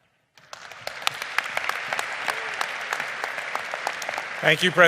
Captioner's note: lead applauding